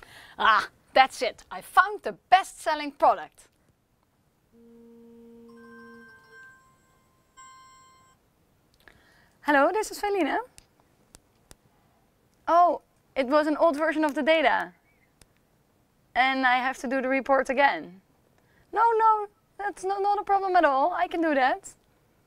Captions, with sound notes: Ah, that's it! I found the best-selling product. [PHONE RINGING] Hello, this is Felienne. Oh, it was an old version of the data... And I have to do the report again. No no, that's not a problem at all. I can do that.